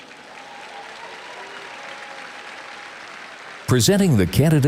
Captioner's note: audience applauds